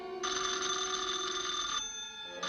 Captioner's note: phone ringing